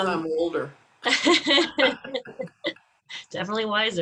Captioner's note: both laughing